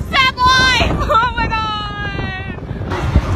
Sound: laughs

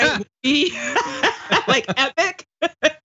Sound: laugh

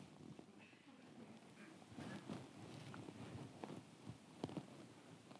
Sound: audience chattering softly

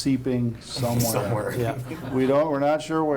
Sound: laughing

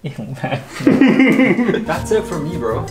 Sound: laughing

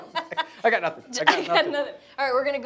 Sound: laughs

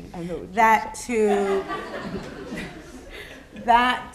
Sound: laughter

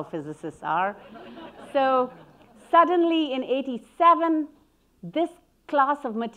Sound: audience laughing

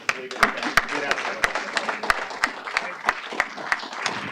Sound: applause

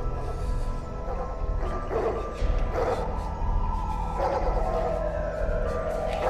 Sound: loud city noises

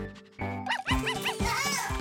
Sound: barking

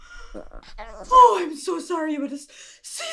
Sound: Gizmo grumbles

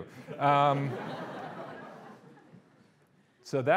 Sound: audience laughing

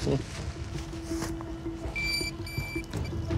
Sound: beeping

